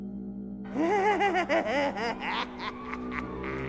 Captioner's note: Knock laughs crazily